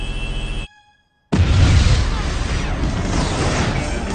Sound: ship blows up

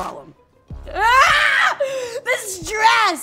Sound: screaming

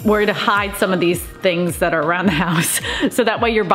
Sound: laughs

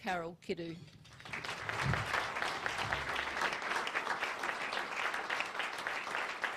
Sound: audience applauds

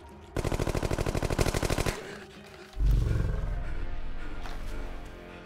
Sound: machine gun fires

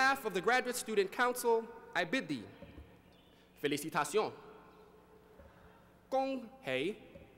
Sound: non-english speech

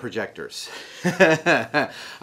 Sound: laughs

